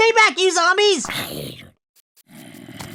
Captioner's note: zombie snarls in pain